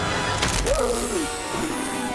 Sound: gasps

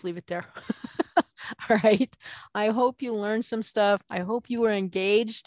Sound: laughing

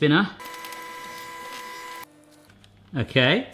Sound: motor whirring

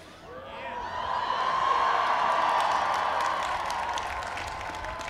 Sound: applause

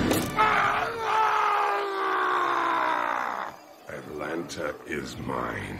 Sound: screaming in fury

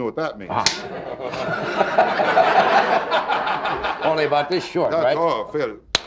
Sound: audience laughing

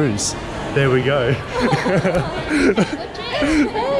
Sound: laughter

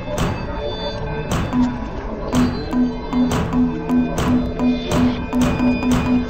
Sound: metal banging; computer dinging

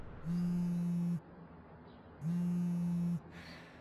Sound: phone vibrates

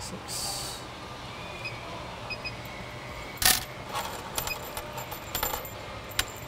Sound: beeping, screws clattering

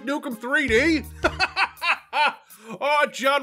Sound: bursts out laughing

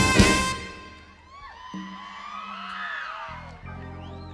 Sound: crowd cheering

